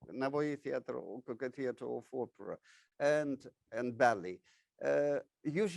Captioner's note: speaks in foreign language